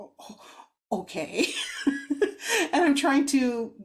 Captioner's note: laughs